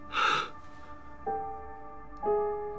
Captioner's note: exhales